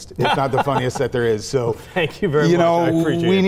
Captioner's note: chuckling